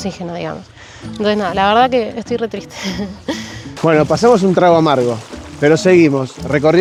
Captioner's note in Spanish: risas